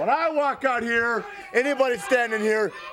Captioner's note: crowd chatter